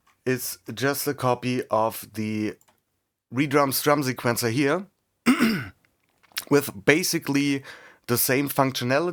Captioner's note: cough and clears throat